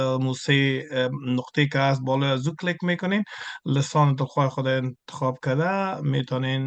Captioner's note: interpreter speaking in Farsi continued